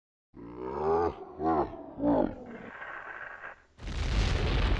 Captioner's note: Dead Hand Laughing